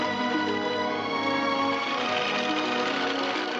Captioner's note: horse cantering